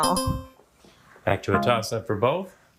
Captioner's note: bell dings